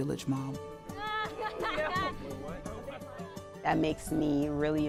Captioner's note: group laughing